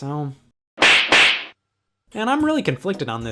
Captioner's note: slaps